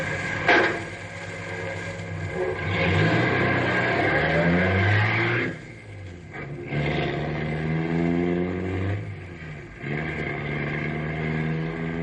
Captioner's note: engine revving